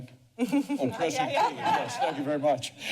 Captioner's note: chuckles; laughs